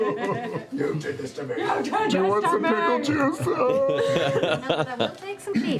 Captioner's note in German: falsches Weinen